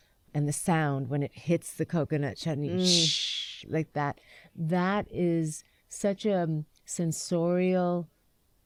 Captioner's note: imitates popping